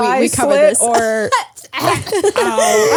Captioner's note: gags; laugh